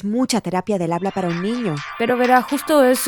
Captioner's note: repique de teléfono